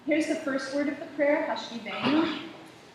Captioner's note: Hebrew